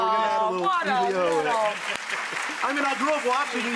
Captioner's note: audience applauding